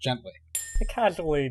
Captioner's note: clink